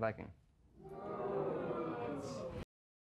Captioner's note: audience jeering